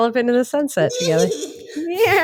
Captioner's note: horse noise